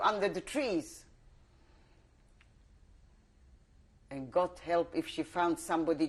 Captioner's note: pauses for 3 seconds